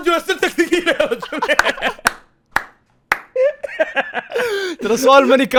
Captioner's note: laughing